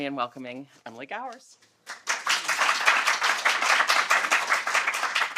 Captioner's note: applause